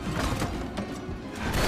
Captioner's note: gun firing